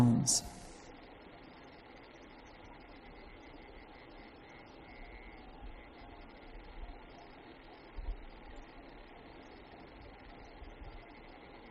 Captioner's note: silence